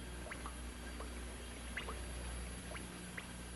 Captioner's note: water dripping